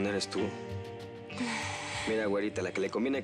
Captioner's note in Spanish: ella exhala